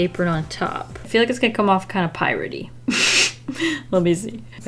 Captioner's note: laughs